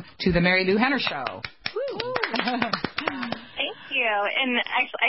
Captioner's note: clapping